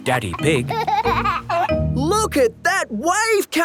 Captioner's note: giggling